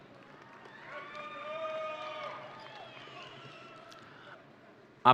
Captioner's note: audience cheering